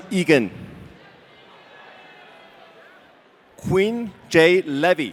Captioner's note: audience cheering